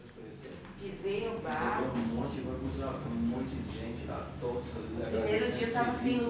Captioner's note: people talking